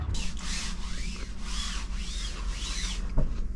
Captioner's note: sound of scrubbing the deck~ cleaning